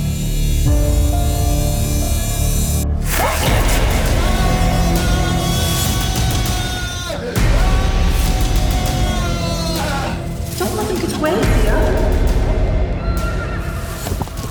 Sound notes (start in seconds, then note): 4.7 Peter screaming